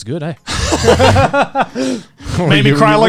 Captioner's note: both laughing